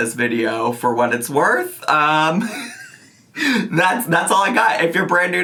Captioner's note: laughing